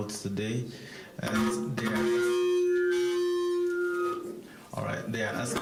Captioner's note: mic feedback